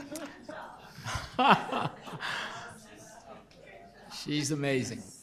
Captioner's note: group laughter